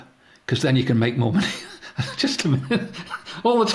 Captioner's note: laughs